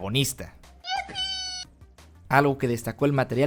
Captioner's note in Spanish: happy noises